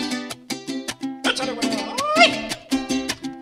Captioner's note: speaks in Spanish